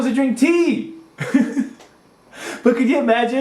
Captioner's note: laughs